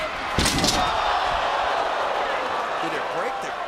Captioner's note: face thuds